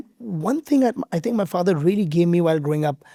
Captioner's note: none